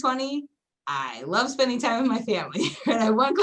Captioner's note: giggles